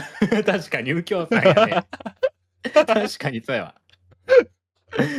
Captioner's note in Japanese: 笑い